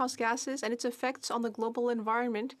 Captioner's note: speaking French